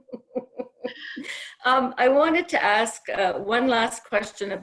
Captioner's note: laughter